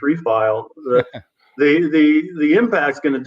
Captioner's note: laugh